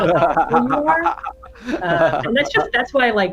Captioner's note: laughs